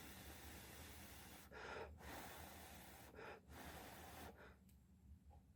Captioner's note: blowing to cool